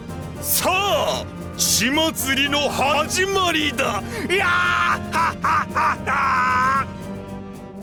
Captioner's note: laugh